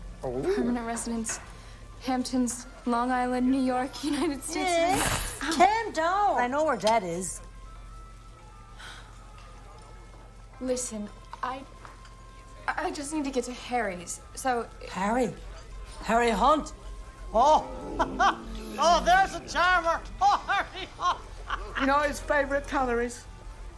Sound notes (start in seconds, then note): 17.3 laughs